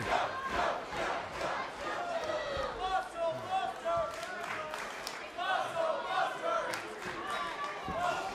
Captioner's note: fans chanting